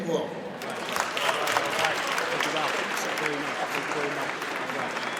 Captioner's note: audience applauds